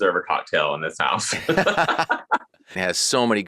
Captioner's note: laughing